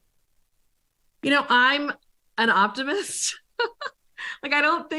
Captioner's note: laughs